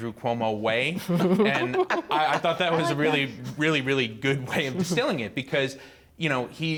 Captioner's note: laughter